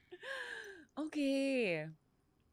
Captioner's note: laughs